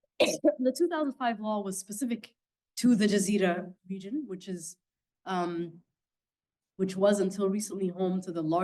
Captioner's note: coughing